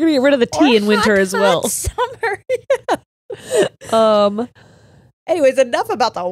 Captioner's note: laughs